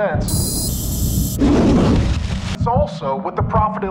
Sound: air whooshing; explosion rumbling

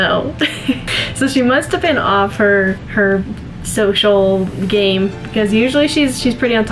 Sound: laughs

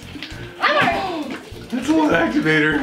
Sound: gasps

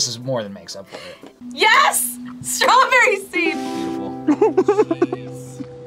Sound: Bill giggles

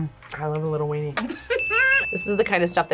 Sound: laughs

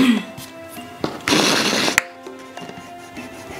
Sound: clears throat; drawing paper scrapes; eraser rubbing

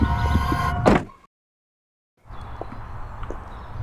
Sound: car door slams; birds chirping; footsteps falling

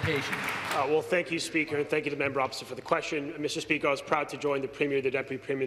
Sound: applause

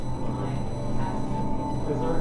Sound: static Noise

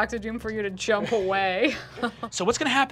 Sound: chuckles

